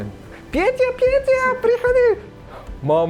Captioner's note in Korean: 폴란드어로 말하는 여성을 모방함